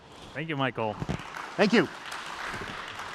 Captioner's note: applause